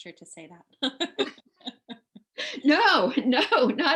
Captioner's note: laughing